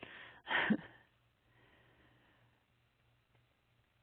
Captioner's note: chuckles